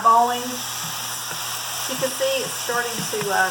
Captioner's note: onions sizzling